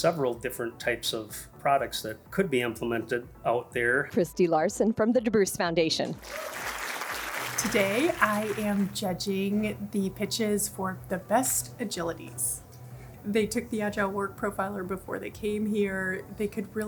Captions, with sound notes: There are several different types of products that could be implemented out there. Kristie Larson from the DeBruce Foundation. [crowd applauds] Today, I am judging the pitches for the best agilities. They took the agile work profiler before they came here.